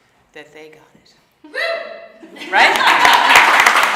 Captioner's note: woman cheering; audience applauding